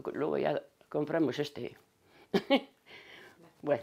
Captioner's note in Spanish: Ríe